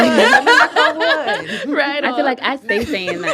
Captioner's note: laughter